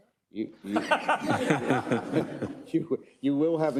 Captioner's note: people laughing